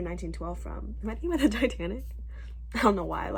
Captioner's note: laughing